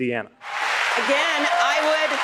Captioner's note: cheering and applause